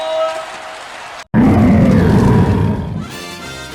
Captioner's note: Pokémon Cry